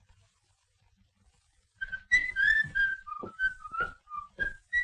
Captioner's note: whistling